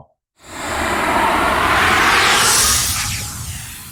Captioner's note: air whooshing